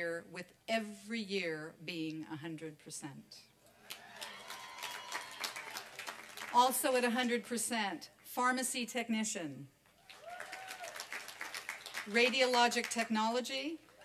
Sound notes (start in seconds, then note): 3.5 applause